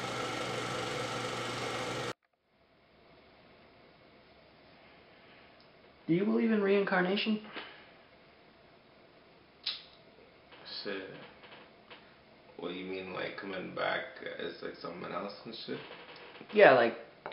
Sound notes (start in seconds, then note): 9.6 snaps teeth